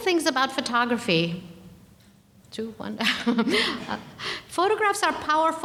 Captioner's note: laughing